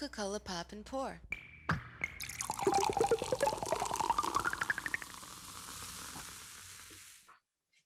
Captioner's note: Coca-Cola, Pop & Pour sound